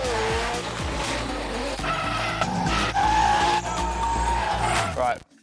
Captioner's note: cars rumbling